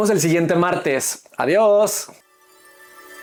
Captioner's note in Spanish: campana